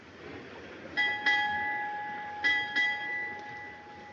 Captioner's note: bell Clanging